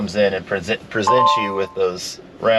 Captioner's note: display chimes